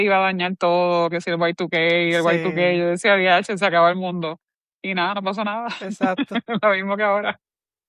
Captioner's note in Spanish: risas